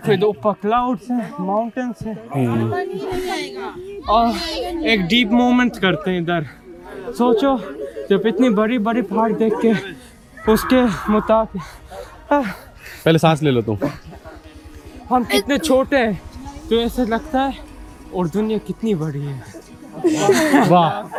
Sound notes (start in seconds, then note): 12.6 trying to breathe